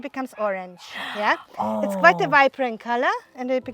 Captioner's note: gasps